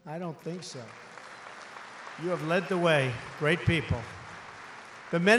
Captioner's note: applause